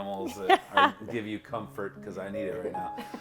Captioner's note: laughs